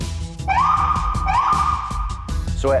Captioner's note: siren